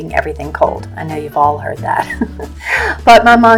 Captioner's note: laughs